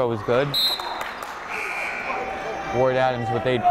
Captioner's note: buzzer blaring; whistle blowing